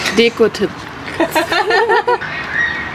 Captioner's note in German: Lautes Lachen